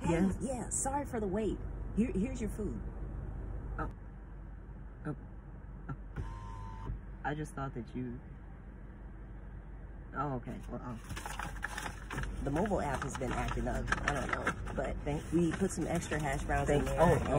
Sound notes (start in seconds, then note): 5.3 window rolls down; 11.0 bag of food rustling